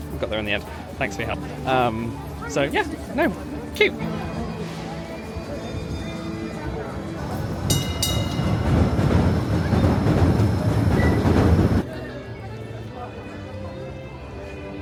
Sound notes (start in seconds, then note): 7.2 train dings; 11.8 soft music